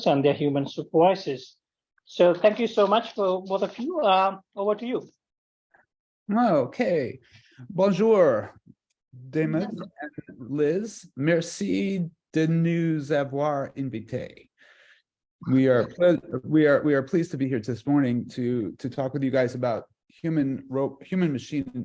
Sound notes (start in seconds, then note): 9.1 foreign words